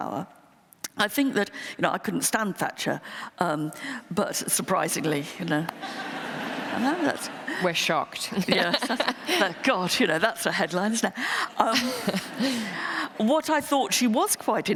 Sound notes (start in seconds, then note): 5.5 laughter